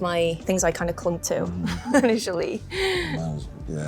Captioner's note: chuckles